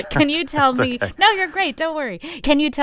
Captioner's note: laughter